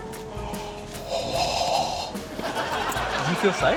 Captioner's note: gasps; laughter